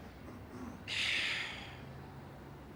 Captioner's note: sighs